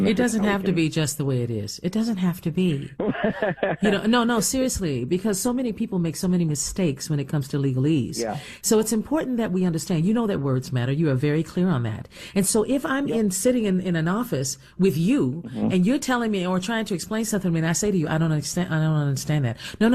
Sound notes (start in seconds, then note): 2.7 laughs